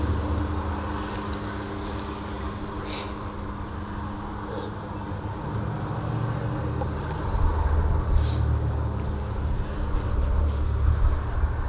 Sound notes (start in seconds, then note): 2.8 sniffs; 6.3 vehicles whirring